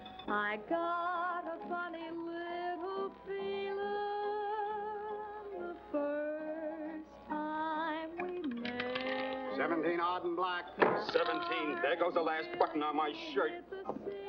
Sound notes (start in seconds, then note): 8.2 roulette ball rattling; 14.1 singing in background